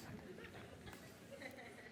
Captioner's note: laughter